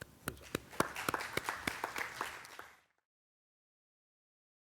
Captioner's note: audience clapping